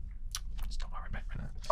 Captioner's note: whispers